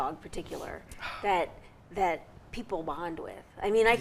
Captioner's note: sighs